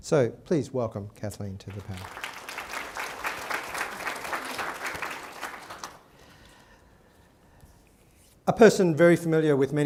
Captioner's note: applause